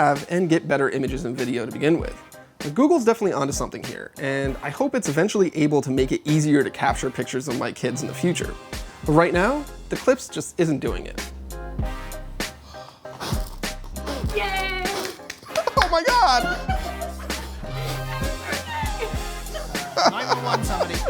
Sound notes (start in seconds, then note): 12.4 exhaling; 12.6 inhaling; 14.6 clapping; 20.9 laughing